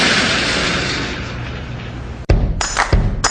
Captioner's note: metallic halting noise